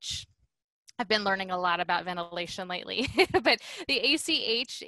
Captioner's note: laughter